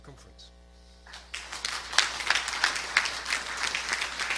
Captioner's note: audience clapping